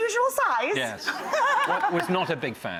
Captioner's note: laughing